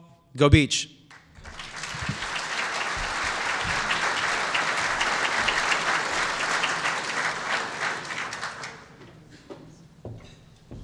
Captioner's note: applause